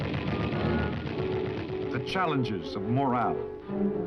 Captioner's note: gunshots